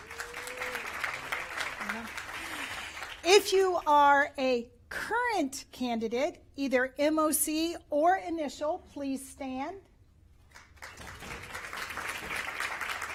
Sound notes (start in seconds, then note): 5.3 applause